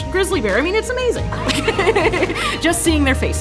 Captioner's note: laughing